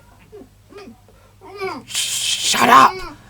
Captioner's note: shout-whispering